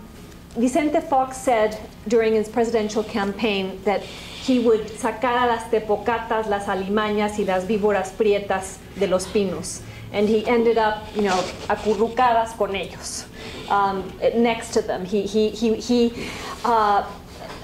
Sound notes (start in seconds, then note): 5.0 speaking spanish; 13.0 spanish